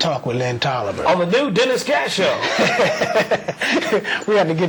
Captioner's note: laughter